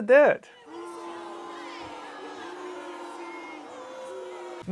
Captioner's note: people booing